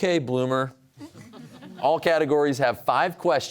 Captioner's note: audience chuckling